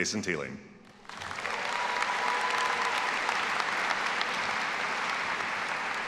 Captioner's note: all applauding and cheering